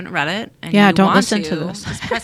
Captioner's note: laughs